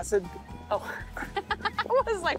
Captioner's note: laughing